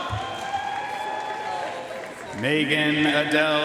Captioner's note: audience cheering and applauding